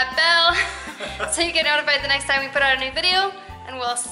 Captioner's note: laughter